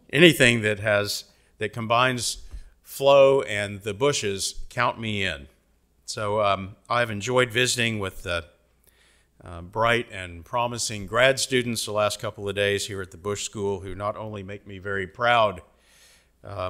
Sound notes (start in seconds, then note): none